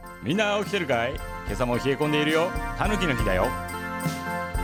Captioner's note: the Japanese radio host repeats himself over and over again